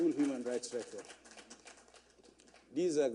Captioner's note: applause